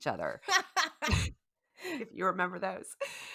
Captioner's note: laughing